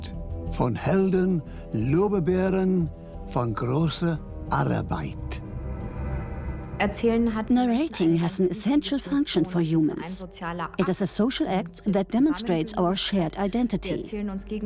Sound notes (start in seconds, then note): 6.6 in German; 7.8 dubbed in English